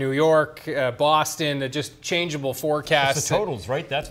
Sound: laughter

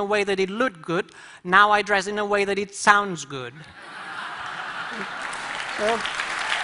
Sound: laughter; applause

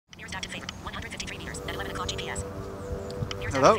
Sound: GPS speaking

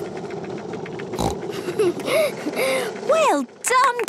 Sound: giggles, snorts

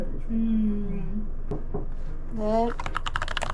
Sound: knock knock

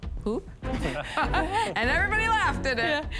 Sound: laughter

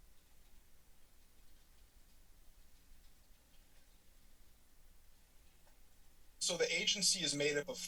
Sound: pause

